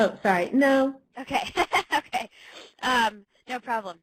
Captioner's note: laughs